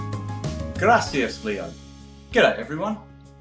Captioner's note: speaking Spanish